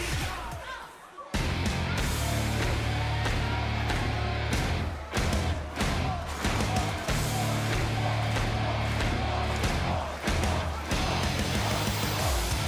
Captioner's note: crowd cheering